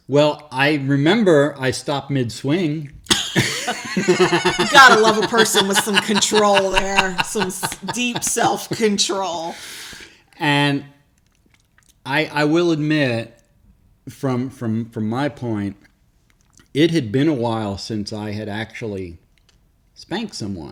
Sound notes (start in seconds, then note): 3.1 laughing; 7.1 laughs